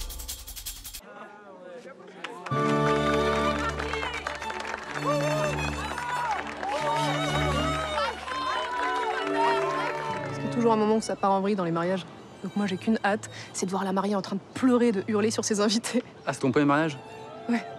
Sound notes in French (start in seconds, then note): 1.6 Applaudissement, cris de joie et violon